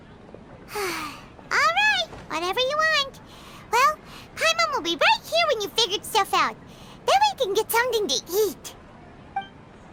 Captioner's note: sigh